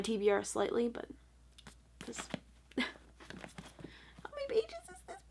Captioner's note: laughs nervously again